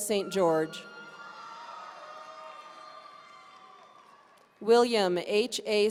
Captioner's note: audience cheering